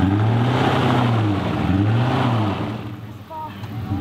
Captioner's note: engine revs